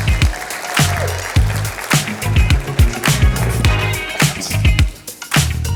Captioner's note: applause